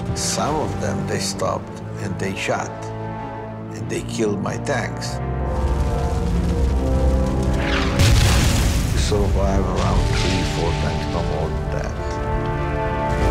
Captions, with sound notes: Some of them, they stopped and take shot. They killed my tanks. (dramatic music) (explosions booming) So I have around three, four tanks no more than that.